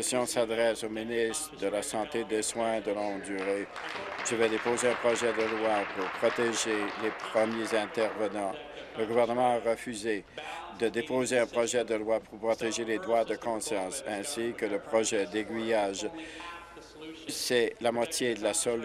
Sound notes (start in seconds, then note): 8.0 applause